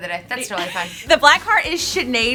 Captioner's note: laughs